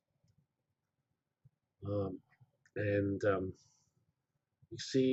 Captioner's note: pause